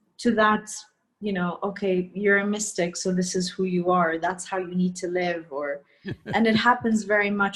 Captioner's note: Sadhguru laughs